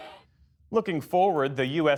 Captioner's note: cheering